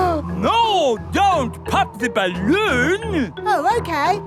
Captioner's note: gasps